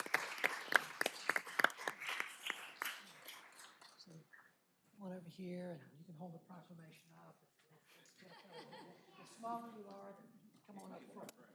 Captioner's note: applause